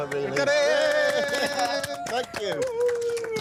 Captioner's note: cheering